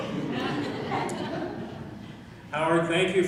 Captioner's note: laughing